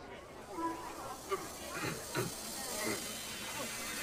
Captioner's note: gagging